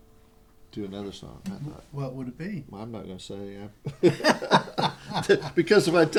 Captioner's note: laughter